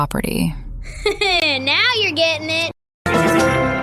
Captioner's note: laughs